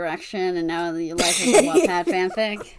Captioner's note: laughing